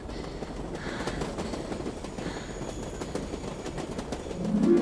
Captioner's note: heavy breathing, train noise